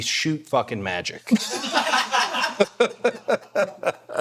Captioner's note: all laughing